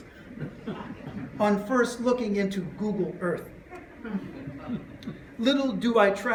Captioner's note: laughter